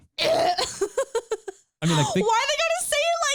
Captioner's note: laughing